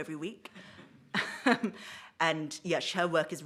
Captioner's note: she chuckles